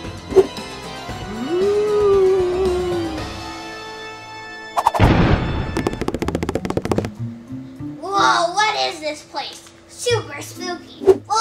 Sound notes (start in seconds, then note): 1.1 ghostly moaning